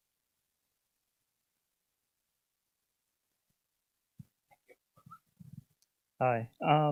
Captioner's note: pause